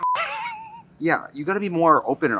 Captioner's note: Katya laughs